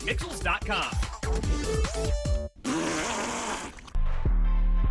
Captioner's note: blowing raspberry with Tongue